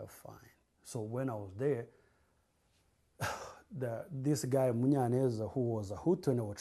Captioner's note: sighs